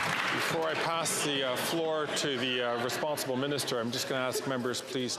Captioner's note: some Applause